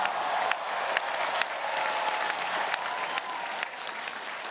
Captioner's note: audience cheering